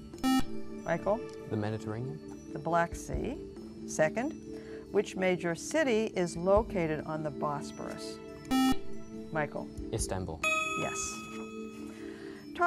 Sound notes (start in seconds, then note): 0.2 buzzer; 8.5 buzzer